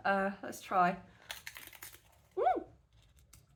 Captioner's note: crunch